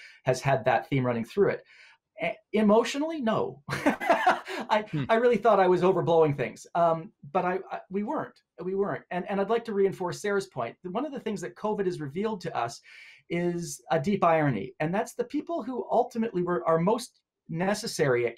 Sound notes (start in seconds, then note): 3.8 laughing